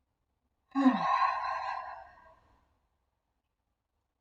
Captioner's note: audible sigh